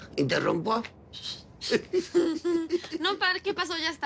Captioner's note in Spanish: Risas